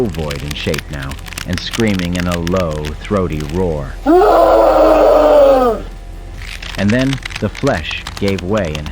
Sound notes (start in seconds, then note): 4.0 Hutt Screaming